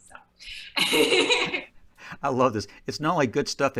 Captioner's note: laughing